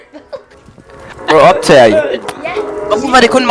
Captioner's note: laughs